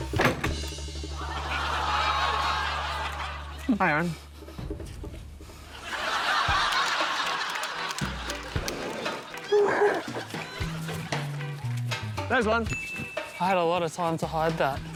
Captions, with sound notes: (LAUGHTER) Hi, Aaron. (LAUGHTER) There's one. (DING!) I had a lot of time to hide that.